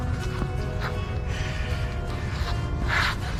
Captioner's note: deep Breath